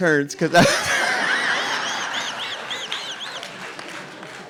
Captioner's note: RuPaul laughs